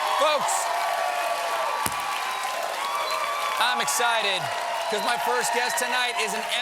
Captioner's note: cheers and applause